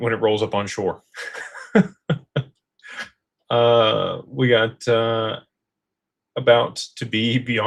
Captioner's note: laughter